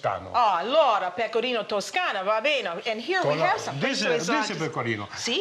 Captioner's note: speaking Italian